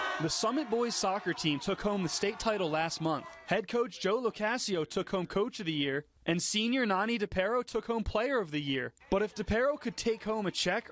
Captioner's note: soccer team cheering